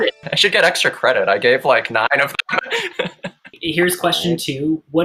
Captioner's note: chuckles